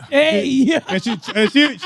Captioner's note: laughing